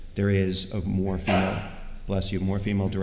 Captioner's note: sneeze